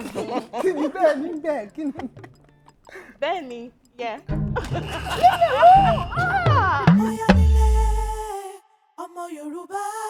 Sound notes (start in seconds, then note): 0.1 laughs; 4.6 buzzer pressed